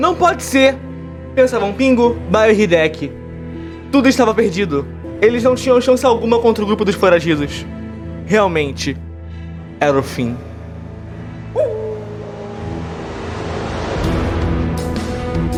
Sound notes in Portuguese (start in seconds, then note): 11.5 Cachorro uivando